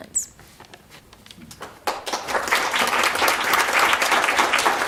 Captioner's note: applause